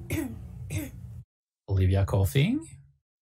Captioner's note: coughing